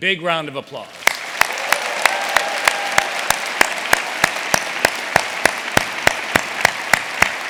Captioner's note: audience applauding; audience cheering